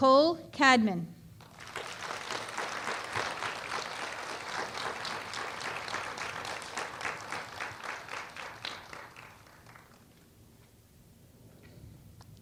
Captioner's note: applause